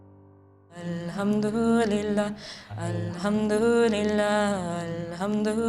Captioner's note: praying in foreign language